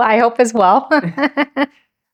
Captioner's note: laughs